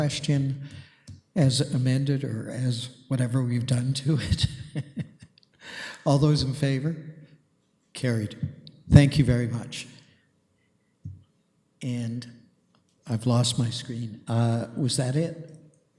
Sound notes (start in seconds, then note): 5.5 laughs